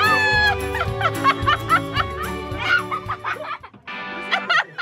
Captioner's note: exclaims, chuckles